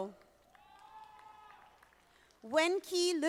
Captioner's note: audience applauding